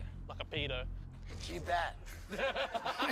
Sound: laughter

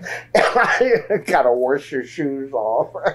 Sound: laughs

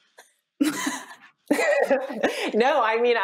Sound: laughing

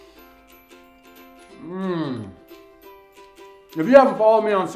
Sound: pleased and satisfied moans

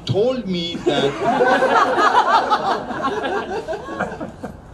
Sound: crowd laughs

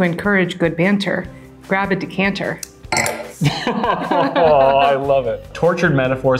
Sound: both laugh

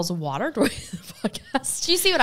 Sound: chuckles

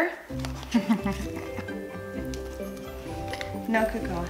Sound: chuckles

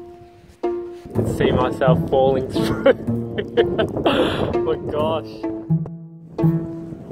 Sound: laughs

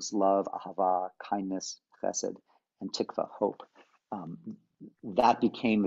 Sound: hebrew

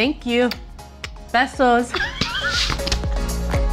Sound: speaks in foreign language; laughing

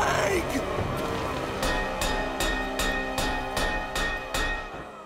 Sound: thudding

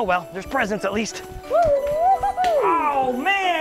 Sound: whooping

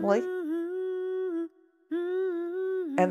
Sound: woman humming

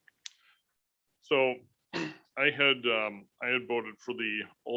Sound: clears throat

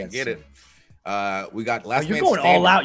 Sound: laugh

